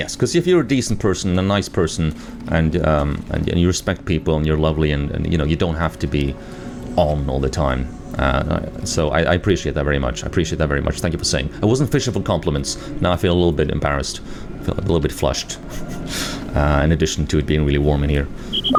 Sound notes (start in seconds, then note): 15.5 chuckles